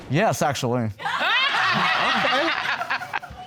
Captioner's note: audience laughing